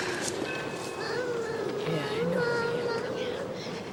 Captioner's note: silly whining